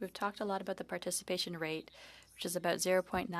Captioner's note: speaking French